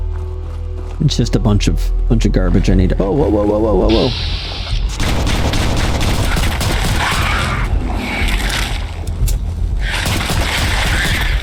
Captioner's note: gunshots